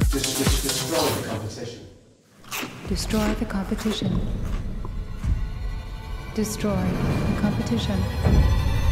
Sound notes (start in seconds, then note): 2.4 snack crunching